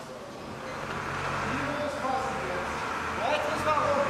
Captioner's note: engine humming, fragments of words